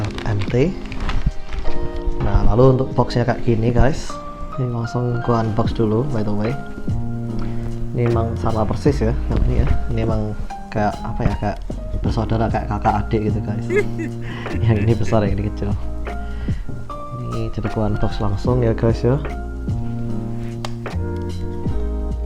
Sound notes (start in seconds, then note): 13.6 chuckles